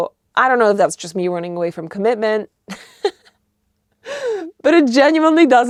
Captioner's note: laughs